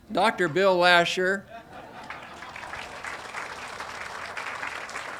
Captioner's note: audience applauding